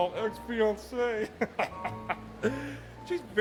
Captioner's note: laughing